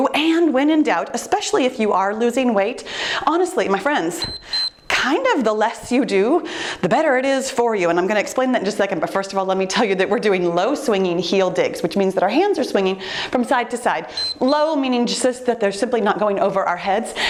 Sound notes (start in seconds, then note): 4.0 timer beeps; 14.0 timer beeps